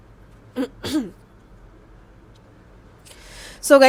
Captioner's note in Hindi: गला साफ़ करने की आवाज़